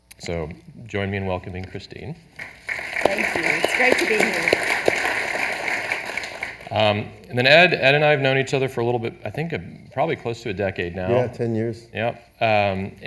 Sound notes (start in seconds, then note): 2.4 audience applauding